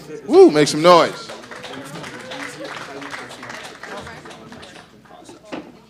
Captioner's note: audience applause